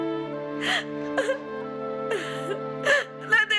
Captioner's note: sobbing